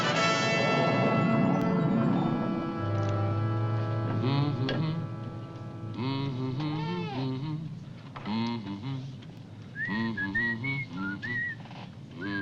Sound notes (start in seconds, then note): 3.9 humming; 9.7 whistling along to tune